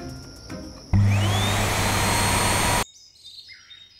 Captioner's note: vacuuming; birds chirping